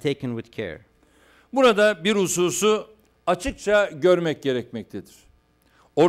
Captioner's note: non-english speech